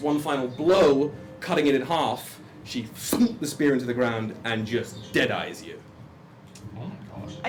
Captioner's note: thuds